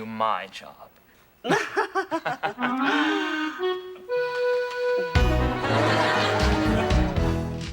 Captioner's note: Atoll chuckling; chuckles; light, silly music